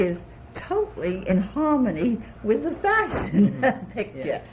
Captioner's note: laughs